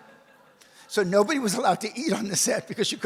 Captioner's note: audience laughs; laughs